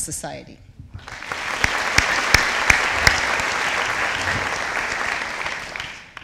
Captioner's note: audience applauding